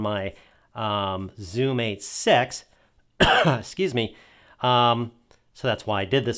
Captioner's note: coughs